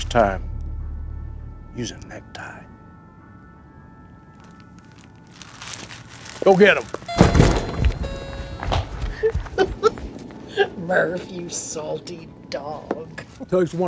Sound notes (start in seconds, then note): 7.1 bell dings; 9.0 laughs